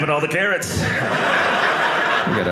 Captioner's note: audience laughing